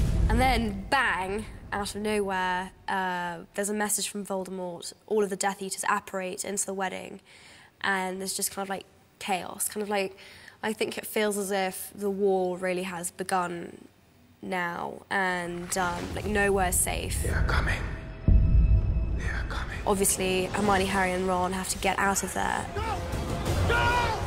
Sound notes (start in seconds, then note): 17.4 whispering